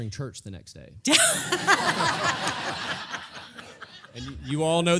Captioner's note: laugh